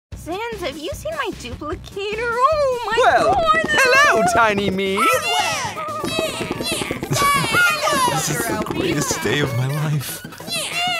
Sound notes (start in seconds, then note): 5.0 Various Nyah's and other Papyrus sounds